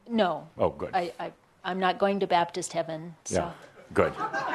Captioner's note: some chuckles